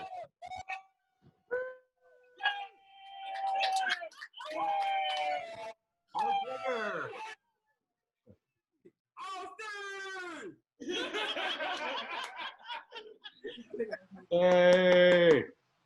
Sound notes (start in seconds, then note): 3.0 cheers; 8.2 laughter